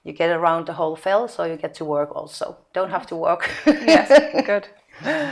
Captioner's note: laughing